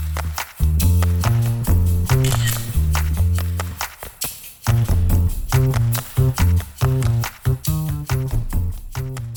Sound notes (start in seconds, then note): 2.0 camera clicks